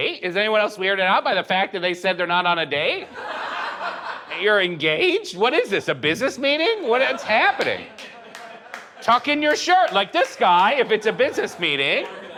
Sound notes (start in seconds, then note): 3.0 audience laughs; 12.1 audience laughing